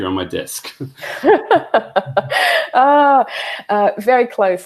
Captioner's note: laughs